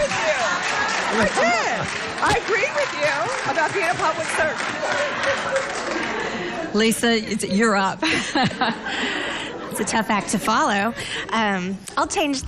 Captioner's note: laughter